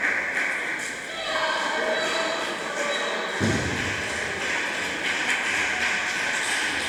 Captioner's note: applause